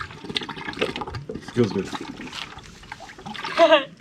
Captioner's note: water gurgling